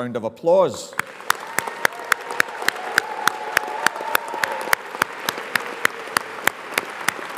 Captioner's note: audience applauds; audience cheers